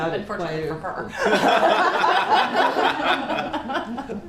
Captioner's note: laughter